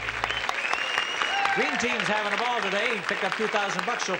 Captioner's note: audience claps and cheers